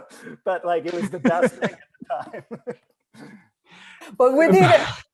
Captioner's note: laughs